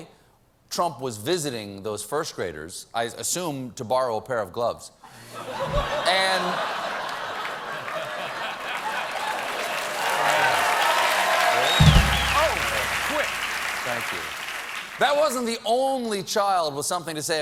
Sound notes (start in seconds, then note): 5.1 laughter; 7.0 applause